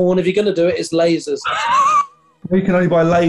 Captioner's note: sniggering